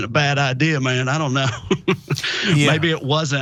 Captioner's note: laugh